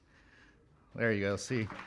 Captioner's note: applause